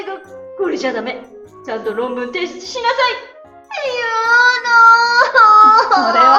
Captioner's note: crying